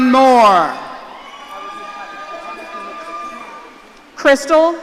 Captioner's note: audience cheering